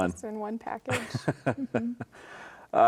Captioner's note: chuckling